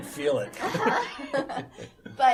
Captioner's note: laughter